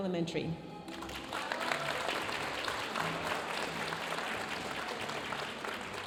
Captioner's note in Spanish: aplausos y vítores de la audiencia